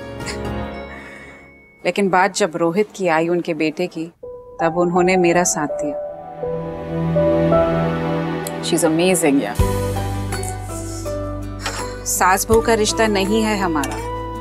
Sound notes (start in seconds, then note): 10.3 inhales